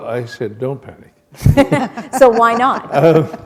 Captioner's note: laughter